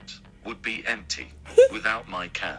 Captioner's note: laughing